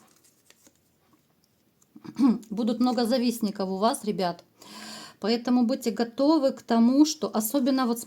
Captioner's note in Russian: откашливается